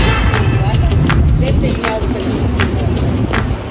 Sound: wind rushing

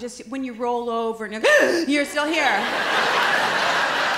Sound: loud gasp

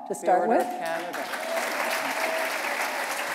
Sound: applause

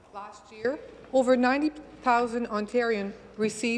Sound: speaking French

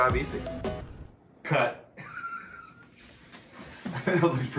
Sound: laughs

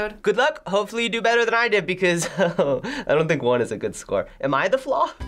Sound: chuckles

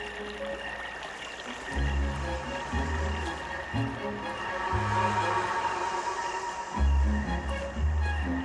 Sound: bees buzzing

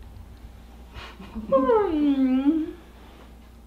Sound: yawning

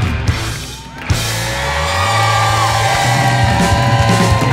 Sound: crowd cheers

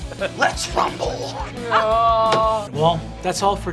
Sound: groaning

